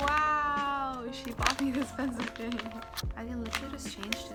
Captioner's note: laughs